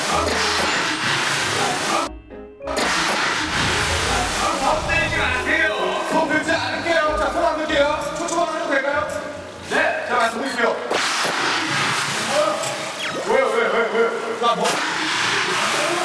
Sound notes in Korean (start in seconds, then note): 3.4 부글부글